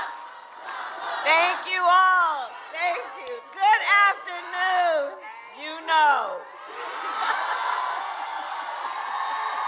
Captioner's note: cheering